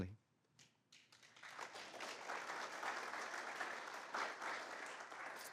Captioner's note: applause